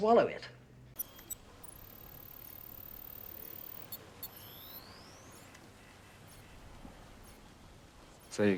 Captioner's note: beeping